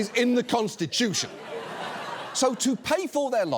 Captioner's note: audience laughs